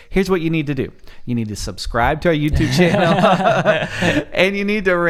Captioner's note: laughs